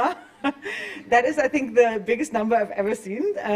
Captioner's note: chuckles